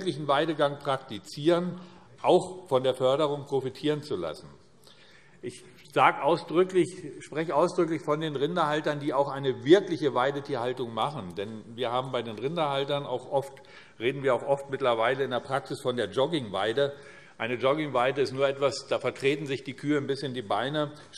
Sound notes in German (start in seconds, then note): none